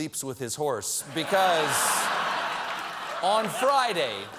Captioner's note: laughter